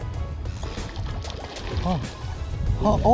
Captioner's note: sound of object hitting water